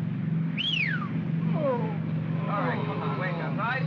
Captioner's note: whistles loudly; men groan